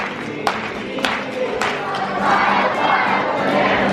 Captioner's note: clapping